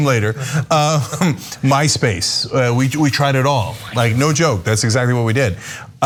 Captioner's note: laugh